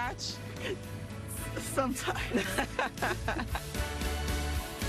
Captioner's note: laughing